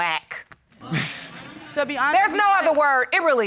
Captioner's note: all laughing